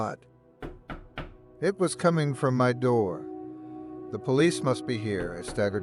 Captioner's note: knock knock knock knock